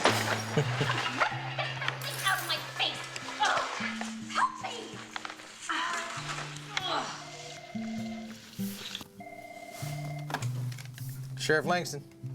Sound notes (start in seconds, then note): 0.3 laughs; 6.2 phone ringing